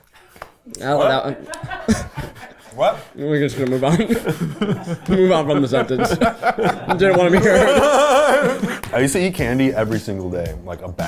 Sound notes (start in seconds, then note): 1.5 people laughing; 4.3 people laughing; 6.5 people laughing